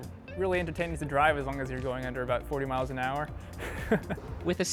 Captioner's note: laughs